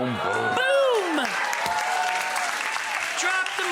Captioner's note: audience cheering